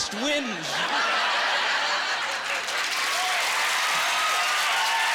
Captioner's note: laughing